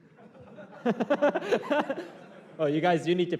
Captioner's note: laughter